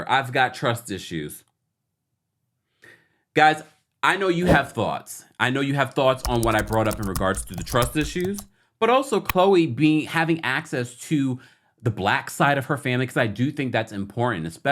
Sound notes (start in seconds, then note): 4.4 graphics whoosh; 6.1 keyboard keys clicking; 9.5 cursor clicks